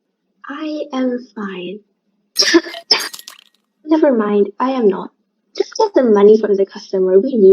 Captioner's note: coughs up multiple ice cubes